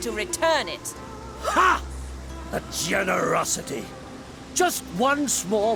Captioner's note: wryly